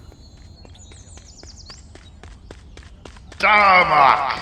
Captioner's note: runner approaches